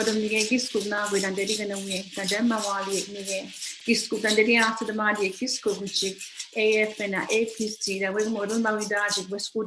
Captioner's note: foreign language